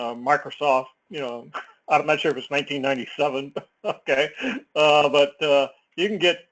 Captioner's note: laugh